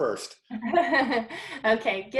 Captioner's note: chuckles